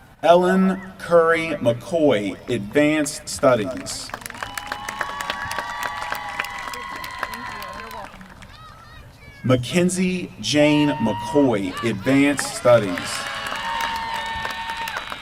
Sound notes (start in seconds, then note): 3.7 applause; 12.2 applause